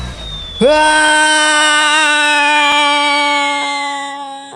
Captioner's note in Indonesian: berteriak